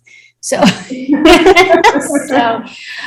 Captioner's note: both chuckle